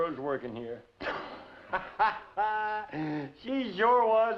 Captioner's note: laughs